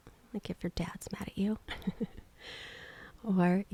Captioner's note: softly chuckles